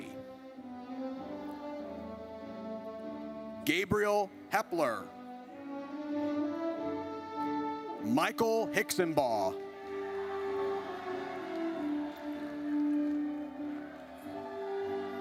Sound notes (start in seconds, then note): 0.2 triumphant music; 5.4 triumphant music; 9.5 audience cheers